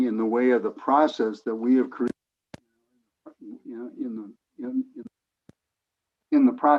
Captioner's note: recording cuts out